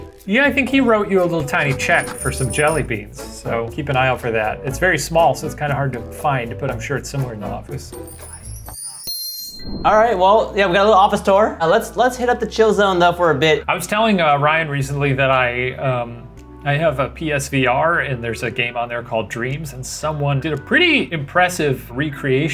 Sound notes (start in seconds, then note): 7.9 chimes ringing